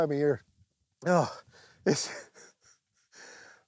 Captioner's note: gulps; laughs